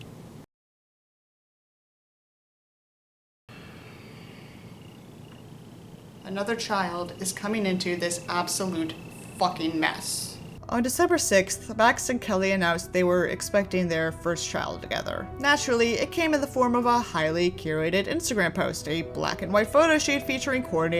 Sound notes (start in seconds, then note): 0.3 silence; 6.7 sighs